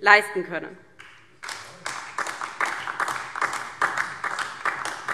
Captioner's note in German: Beifall DIE LINKE und vereinzelt SPD